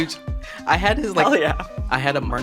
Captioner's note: laughs